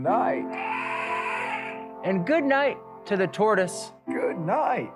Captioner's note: elephant trumpeting noise